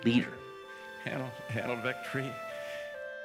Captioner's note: voice breaking